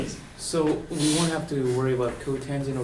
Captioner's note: voiceover